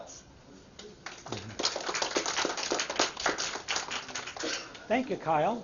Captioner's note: applause